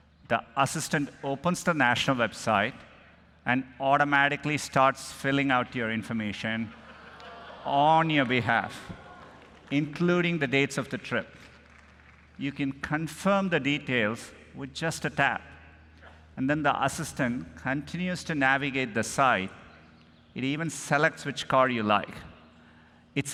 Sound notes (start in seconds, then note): 7.2 applause